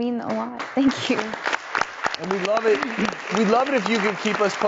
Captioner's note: audience applauding